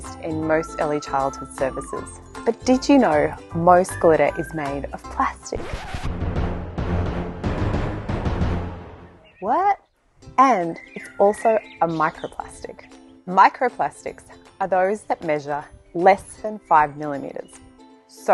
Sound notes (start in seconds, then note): 5.3 dramatic music; 5.5 film scratching